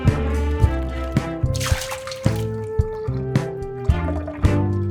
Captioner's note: splashing